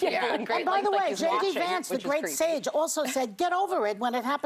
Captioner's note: laughter